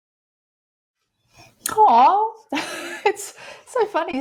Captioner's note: laughs